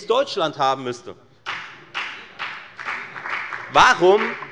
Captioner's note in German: Beifall bei der FDP